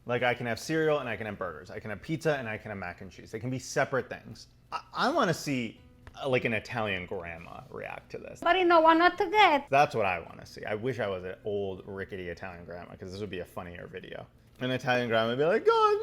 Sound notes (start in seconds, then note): 8.6 speaking in Italian